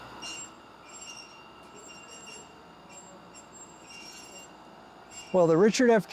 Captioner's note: electric door buzzing; metal screeching; electric door buzzing; metal screeching